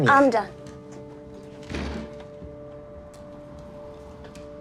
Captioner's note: door thuds